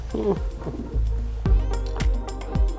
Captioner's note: laughs